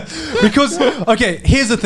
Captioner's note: laughs